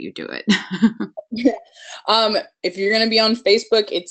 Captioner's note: laughs